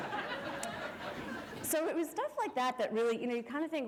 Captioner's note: laughter